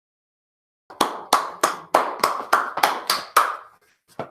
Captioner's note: clapping hands